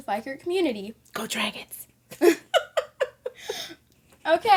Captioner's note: laughter